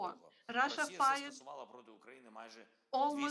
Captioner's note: Volodymyr speaking in foreign language